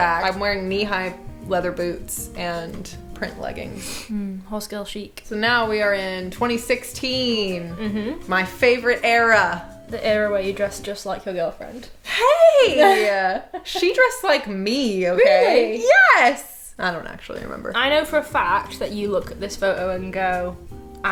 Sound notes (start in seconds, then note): 3.8 sniffling